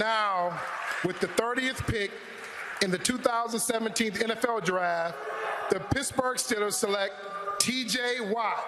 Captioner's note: cheering and applause